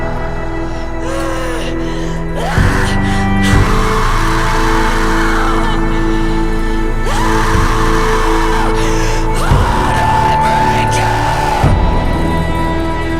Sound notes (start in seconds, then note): 2.3 screams